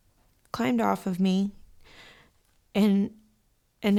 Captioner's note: exhales sharply